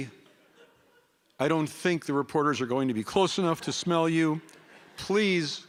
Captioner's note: laughter